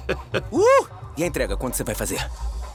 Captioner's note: laughing; exclaims